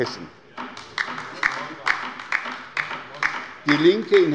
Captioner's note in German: Beifall bei der LINKEN